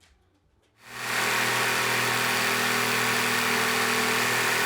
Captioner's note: saw whirring